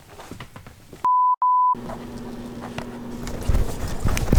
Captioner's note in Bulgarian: звуков сигнал на камерата